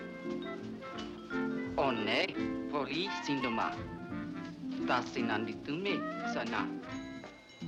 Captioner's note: jazz music plays; speaking foreign language; jazz music plays